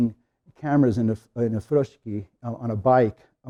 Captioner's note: speaking in Japanese